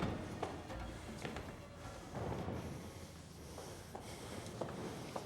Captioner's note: breathing heavily